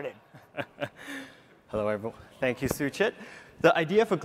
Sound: laughs

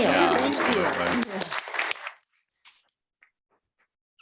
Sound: applause

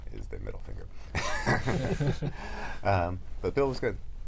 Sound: laughter

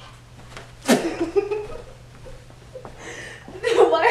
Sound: laughing

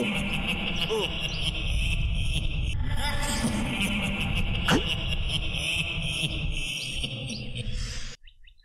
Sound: ghostly Evil Cackle

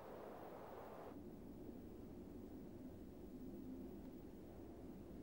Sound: wind howling

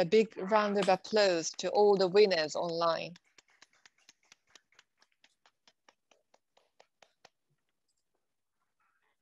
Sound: applause

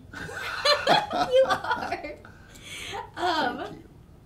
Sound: both laughing

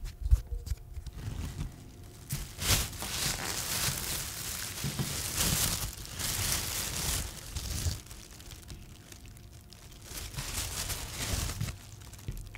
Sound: sounds of crinkling produce bag

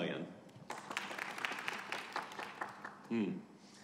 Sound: audience applauding

